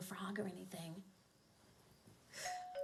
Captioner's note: doorbell rings